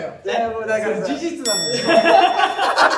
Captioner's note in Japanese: 効果音：チーン; 笑い声